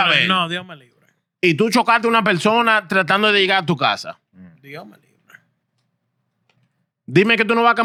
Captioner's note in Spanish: Hablando en idioma extranjero